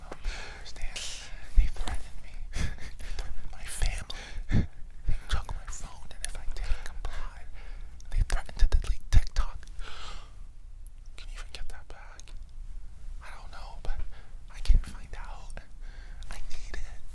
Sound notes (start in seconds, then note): 9.8 gasp